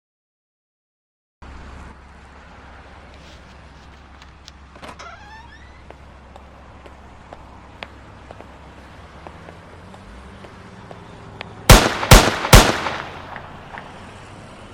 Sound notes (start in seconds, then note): 4.8 door creaks; 11.7 gun fires three times